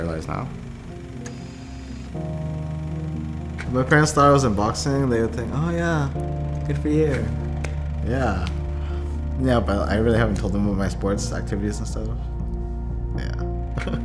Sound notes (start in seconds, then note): 2.2 projector humming